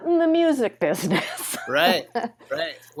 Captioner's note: laughs